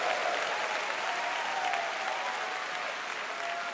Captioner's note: cheers and applause